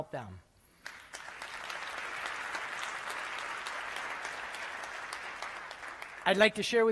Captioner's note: applause